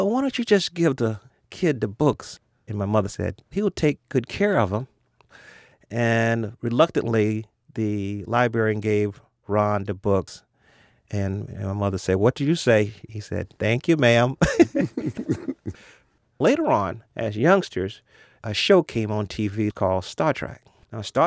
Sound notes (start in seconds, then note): 14.4 laughs